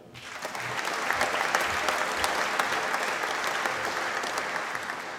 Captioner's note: applause